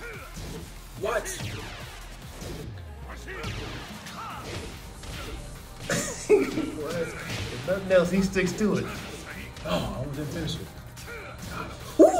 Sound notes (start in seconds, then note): 5.8 laugh